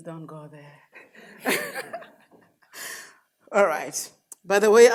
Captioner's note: laughs